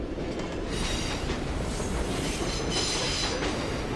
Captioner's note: rails squealing